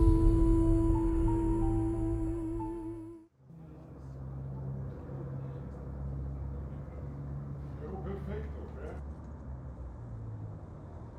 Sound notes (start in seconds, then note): 3.5 distant street noise